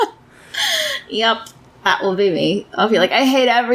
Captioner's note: laughs